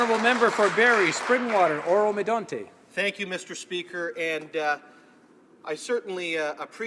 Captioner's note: applause